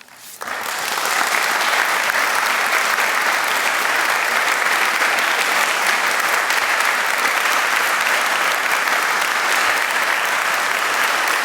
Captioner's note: applause